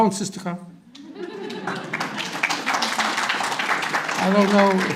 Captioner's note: audience applause